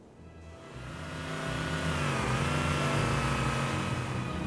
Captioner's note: Warthog engine revs